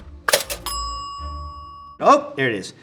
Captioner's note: bell pings